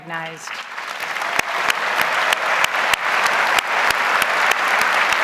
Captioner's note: audience applauds